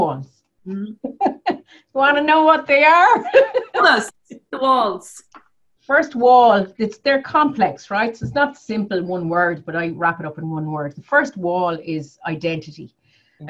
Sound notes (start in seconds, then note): 3.2 laughs